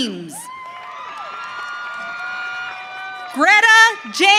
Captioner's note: audience cheering